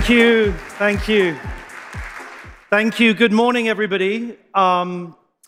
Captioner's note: applause